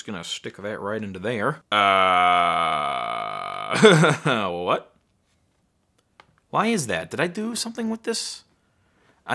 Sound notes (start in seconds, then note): 1.7 groans; 3.8 laughter